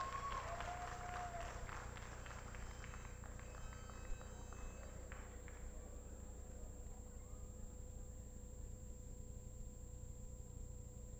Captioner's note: applause